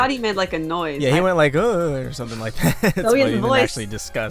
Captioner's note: chuckles